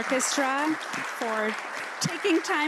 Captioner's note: applause